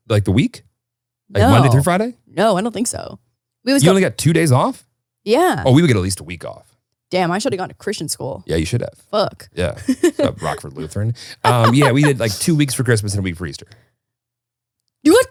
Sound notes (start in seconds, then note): 9.6 laughs